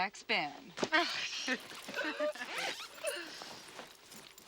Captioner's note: ladies laughing